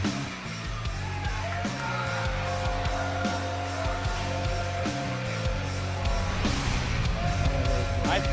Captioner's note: crowd cheering